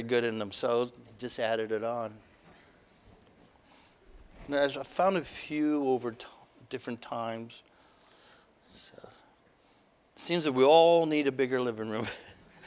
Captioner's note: laughter